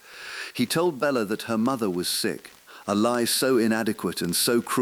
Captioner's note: exhale